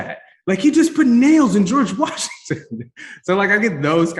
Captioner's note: chuckles